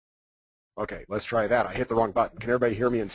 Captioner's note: voiceover